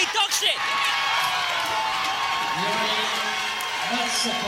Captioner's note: cheering